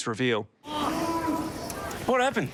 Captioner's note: groans